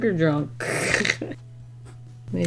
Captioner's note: laughs